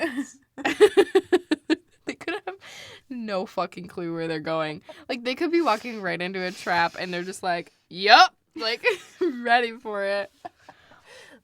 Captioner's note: laughs